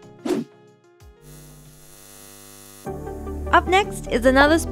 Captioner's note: audio buzzing